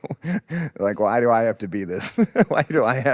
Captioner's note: laughs; laughs